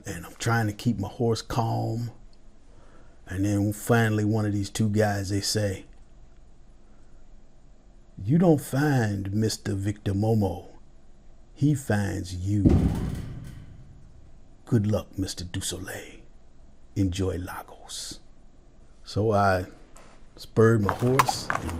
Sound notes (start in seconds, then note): 12.6 metal clangs; 13.2 air swooshes; 20.8 hoofs clattering